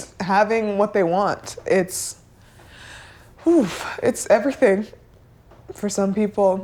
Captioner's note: exhaling